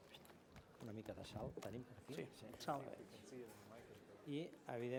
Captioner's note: non-english speech